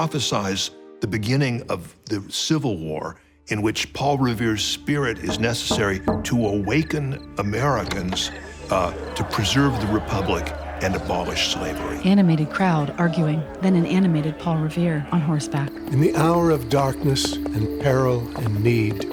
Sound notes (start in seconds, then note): 12.2 crowd arguing